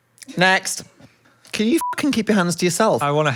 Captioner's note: beep